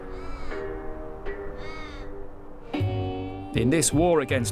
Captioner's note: animal squawking